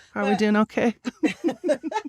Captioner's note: laughter